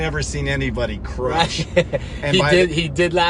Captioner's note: laughs